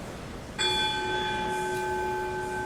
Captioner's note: one bell rings